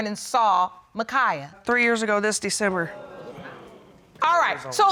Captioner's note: audience exclaims